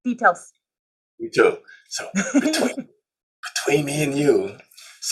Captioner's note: whispering